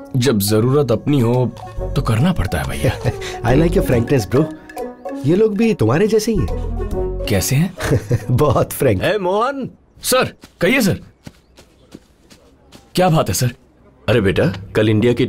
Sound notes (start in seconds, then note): 2.8 giggles; 10.1 footsteps